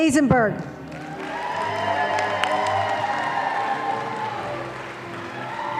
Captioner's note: audience applauding